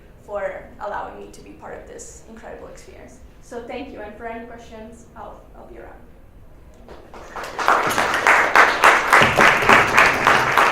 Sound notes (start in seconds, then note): 6.8 audience claps